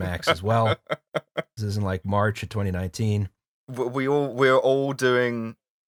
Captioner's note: laughter